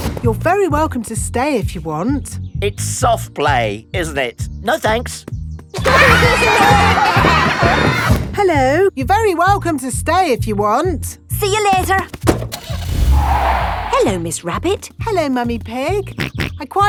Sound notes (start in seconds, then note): 5.8 laughter; 12.2 car starting; 12.5 tires screeching; 16.4 snorts